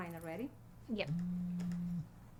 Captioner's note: phone buzzes